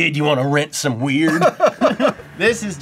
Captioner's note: laughs